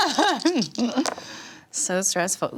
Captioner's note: laughs